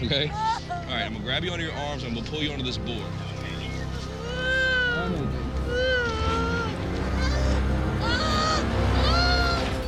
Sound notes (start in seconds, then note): 3.8 painful cries